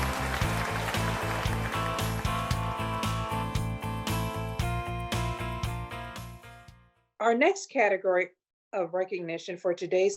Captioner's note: applause